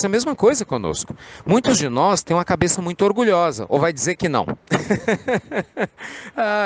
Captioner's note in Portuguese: Risos